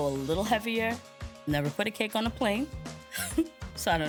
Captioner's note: laughs